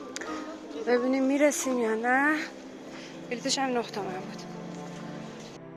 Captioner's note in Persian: صدای همهمه مردم